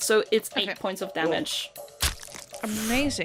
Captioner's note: wet thunk